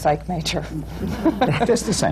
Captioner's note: laughter